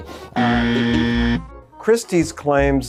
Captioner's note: incorrect buzzer sound